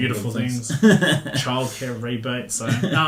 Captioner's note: laughing